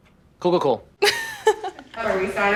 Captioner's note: laughs